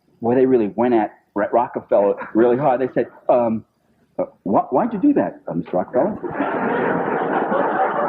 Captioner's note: laughter